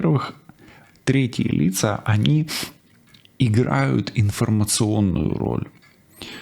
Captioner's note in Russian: фыркает